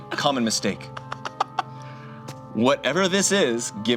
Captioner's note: laughs